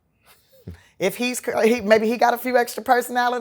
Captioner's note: chuckles